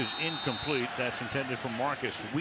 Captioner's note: whistle blowing